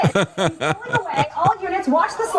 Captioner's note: laughs